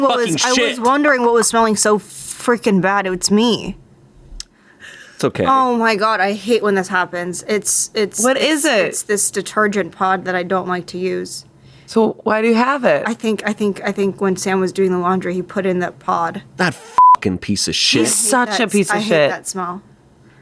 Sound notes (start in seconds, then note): 16.9 beep